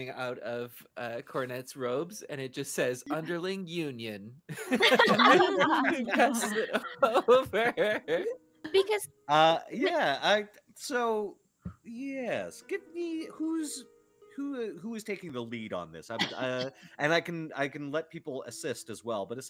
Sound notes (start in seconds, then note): 4.5 all laughing